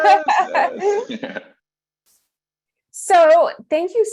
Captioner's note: laughs